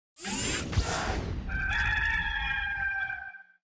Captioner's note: rooster crowing